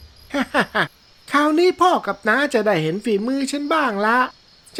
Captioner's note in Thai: เสียงหัวเราะ